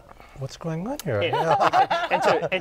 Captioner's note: laughter